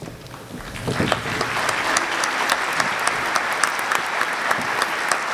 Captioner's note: audience clapping